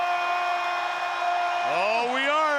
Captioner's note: crowd cheering